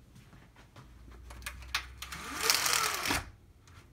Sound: blinds opening

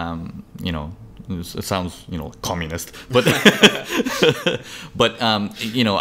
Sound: laughs

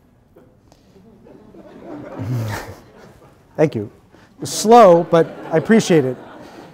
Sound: laughter

